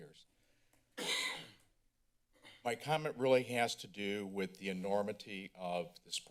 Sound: coughing

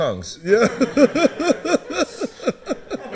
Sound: laughing

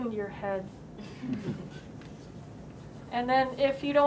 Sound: chuckles

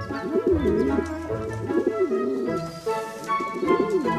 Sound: pigeons cooing; upbeat music

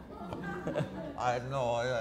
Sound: audience laughter

